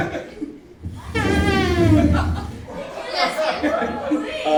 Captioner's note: laughing